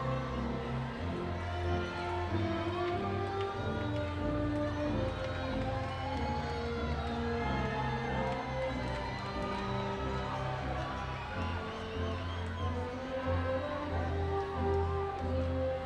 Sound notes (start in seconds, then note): 2.7 audience continues cheering